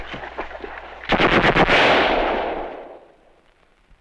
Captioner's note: gunfire